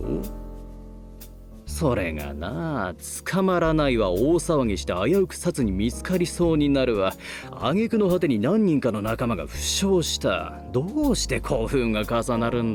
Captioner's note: sigh